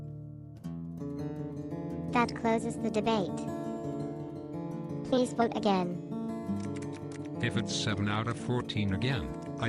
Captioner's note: typing noise